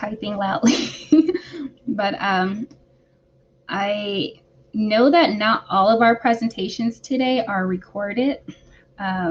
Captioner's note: laughter